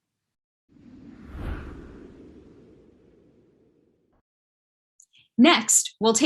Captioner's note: light Whoosh